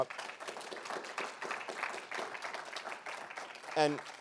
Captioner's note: audience applauding